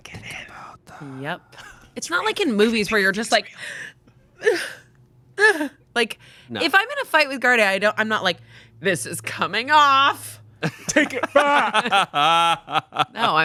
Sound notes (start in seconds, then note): 3.4 gasping; 10.6 laughing